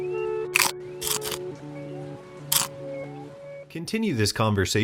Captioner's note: teeth biting